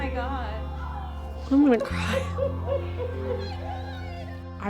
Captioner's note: Holly crying